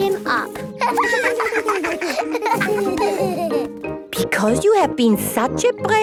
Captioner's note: laughter